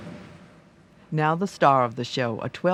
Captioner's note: voiceover